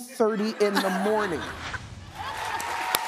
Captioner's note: audience laughing; laughs; audience applauding